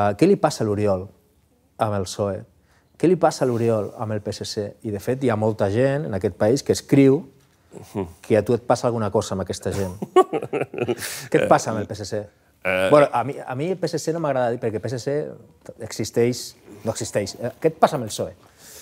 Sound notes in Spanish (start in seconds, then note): 9.8 risas